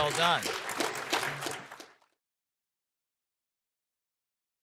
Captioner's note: audience clapping